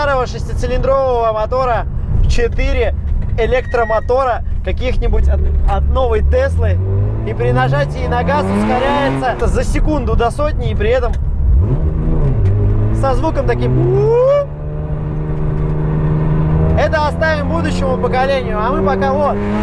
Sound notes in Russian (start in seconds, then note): 13.8 вжух